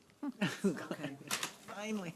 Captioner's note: laughing